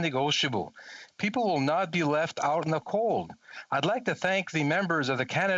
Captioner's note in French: voix de l'interprète